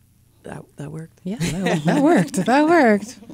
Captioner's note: all laugh